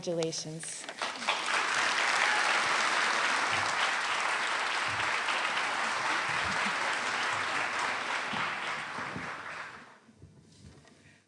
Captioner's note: applause